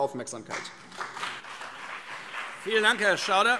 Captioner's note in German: Beifall BÜNDNIS 90/DIE GRÜNEN und vereinzelt CDU